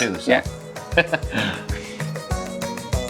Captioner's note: glasses clinking; upbeat music continues